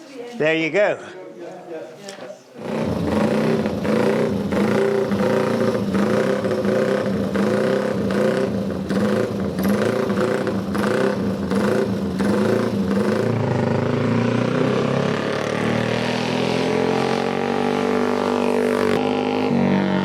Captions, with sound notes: there you go. [Engine roars]